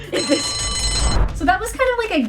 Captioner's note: bell rings